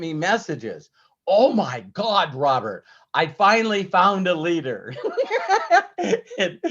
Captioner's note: laughs